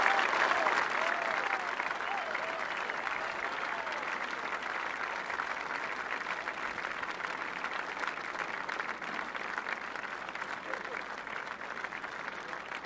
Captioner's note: applause